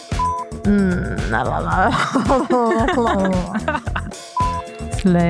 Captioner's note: laughter